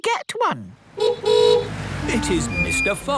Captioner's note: horn honking